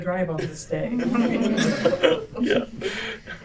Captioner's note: laughter